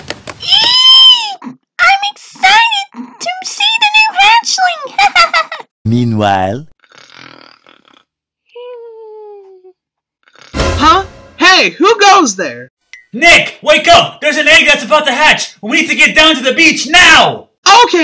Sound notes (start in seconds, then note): 4.9 laughs; 6.8 snoring; 10.6 door slams